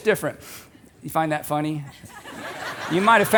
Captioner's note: audience laughing